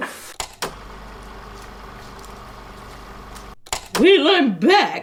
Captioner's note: camera reel whirring